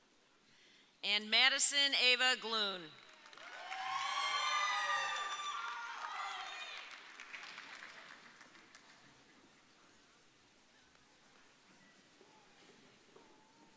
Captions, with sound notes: And Madison Eva Glunn. (audience cheering)